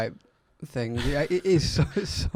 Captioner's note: laughs